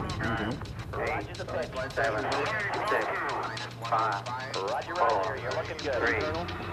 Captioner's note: astronauts speaking over loud ticking sound